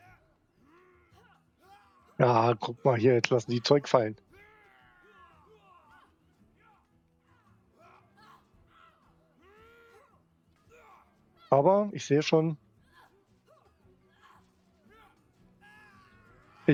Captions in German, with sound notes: [stöhnen] Ah, guck mal hier. Jetzt lassen die Zeug fallen. [schreien] Aber ich sehe schon,